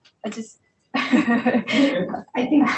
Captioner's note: participant laughing